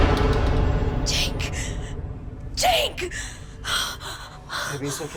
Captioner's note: door closing